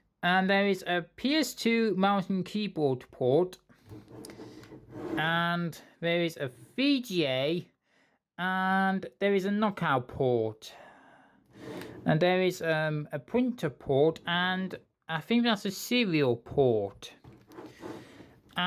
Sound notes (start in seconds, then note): none